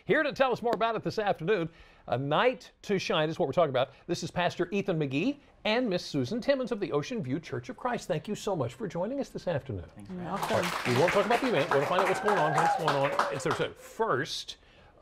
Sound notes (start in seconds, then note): 10.4 cheering